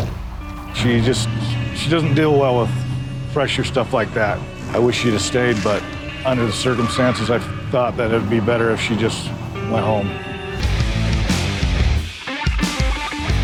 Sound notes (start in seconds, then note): 6.7 tires squealing